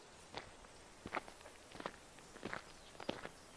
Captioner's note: footsteps approaching